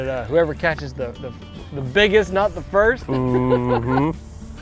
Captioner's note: chuckles